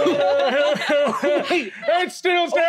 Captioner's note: Hob sobs